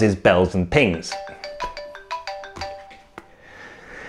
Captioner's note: phone rings